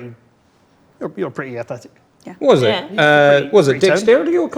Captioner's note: overlapping chattering